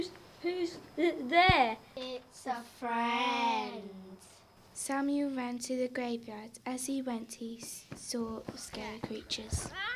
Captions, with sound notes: W-who's t-there? [in spooky voice] It's a friend. Samuel ran to the graveyard. As he went he saw scary creatures.